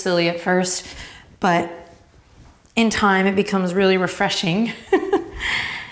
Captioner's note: laughs